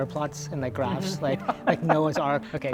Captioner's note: laughing